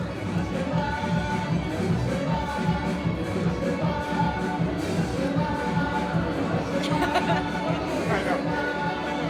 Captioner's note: laughter